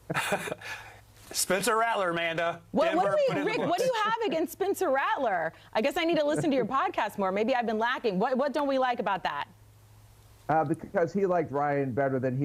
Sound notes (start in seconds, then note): 3.1 laughter